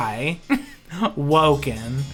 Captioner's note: laughs